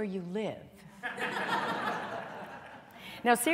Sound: laughter

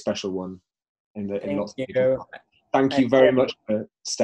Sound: voice muffled

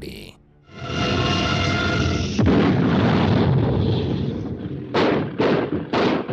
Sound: dramatic music; rocket exploding

